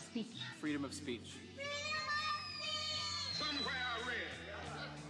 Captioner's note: children in Unison